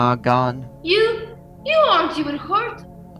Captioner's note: shocked